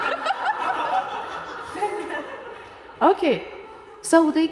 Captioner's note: audience laughing